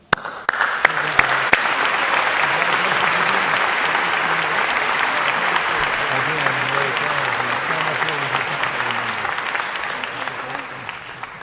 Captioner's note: applause